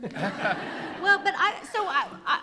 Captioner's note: laughter